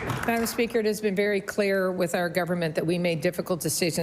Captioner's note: applause